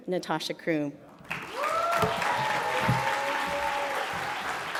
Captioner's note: audience applauds